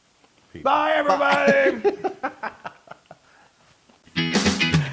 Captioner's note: laugh